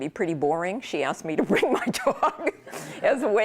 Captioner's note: laughter